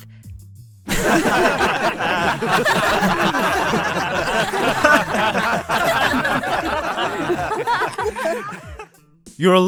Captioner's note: laughter